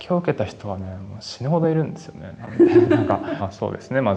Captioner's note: laughs